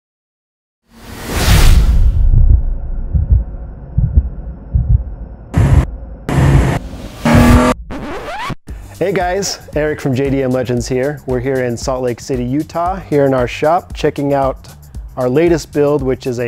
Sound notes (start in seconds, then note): 6.2 engine noise increases; 7.2 record scratches